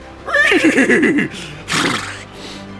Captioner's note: horny horse noises